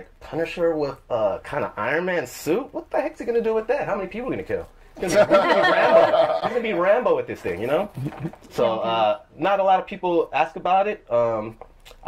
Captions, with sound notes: and I was like Punnisher with a kind of Ironman suit. What the heck is he going to do with that? How many people are you gonna kill? (laughter) Would it be a Rambo? Would he be Rambo with this thing. You know? (sounds of agreement) So, not a lot of people ask about it.